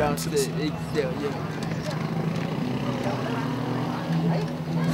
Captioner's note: street noises